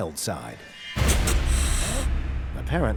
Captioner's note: hissing